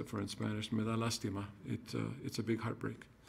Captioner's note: speaking in foreign language